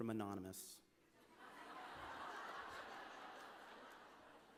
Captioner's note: laughter